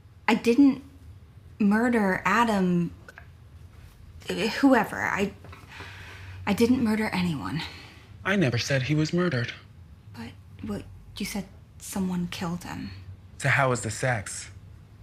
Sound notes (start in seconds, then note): none